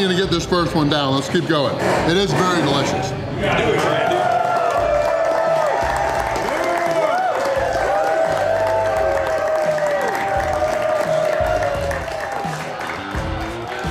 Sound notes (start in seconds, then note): 3.6 crowd; 5.7 crowd clapping and cheering